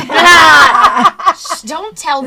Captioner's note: laughter